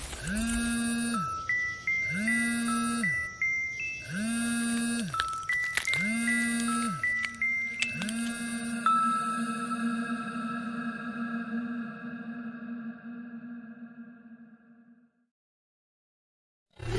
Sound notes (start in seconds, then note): 0.1 phone vibration and ringing; 4.8 crackling; 8.2 phone ring echoing out and fading